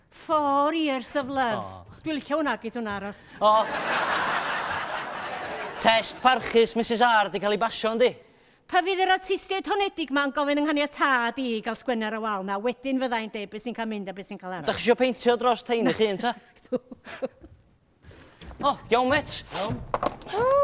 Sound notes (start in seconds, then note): 16.9 laughs